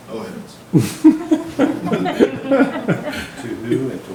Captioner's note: member laughs